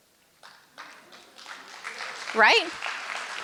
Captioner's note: applause